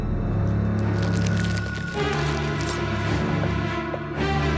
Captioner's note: knife slices